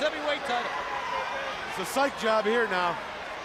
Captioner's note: crowd chatter